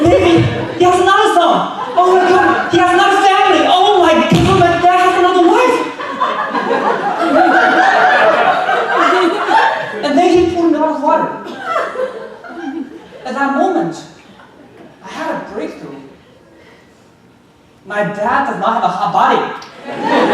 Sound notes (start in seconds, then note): 5.6 audience laughing